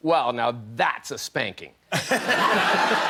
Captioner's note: laughter